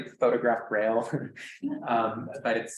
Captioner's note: laughs